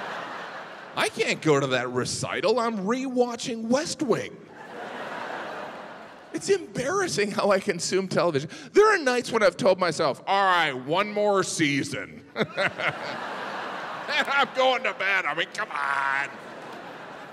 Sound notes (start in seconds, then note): 4.5 audience laughing; 12.3 laughing